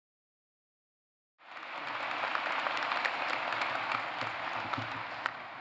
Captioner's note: applause